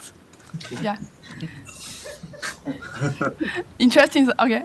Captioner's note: laughter